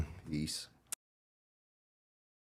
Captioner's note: clap